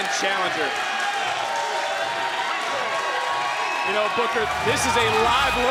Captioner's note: applause